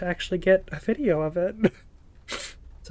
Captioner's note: laughs